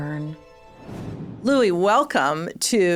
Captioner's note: logo whooshing